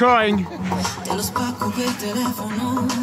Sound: sighs

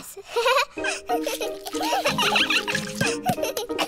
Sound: giggles; all giggling

